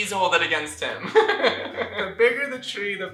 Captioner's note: laughter